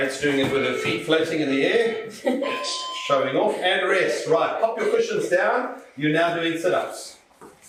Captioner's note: beeping